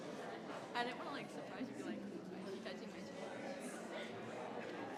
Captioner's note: crowd chattering continues